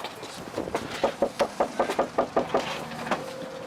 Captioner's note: knock on door